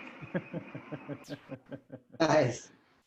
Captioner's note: laughing